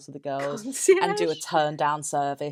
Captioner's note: laughs